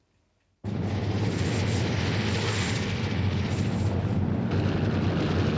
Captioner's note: helicopter engine rumbling